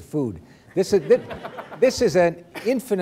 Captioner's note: laughter